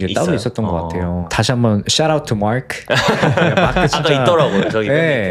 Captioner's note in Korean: 웃음